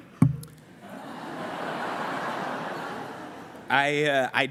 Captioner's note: laughter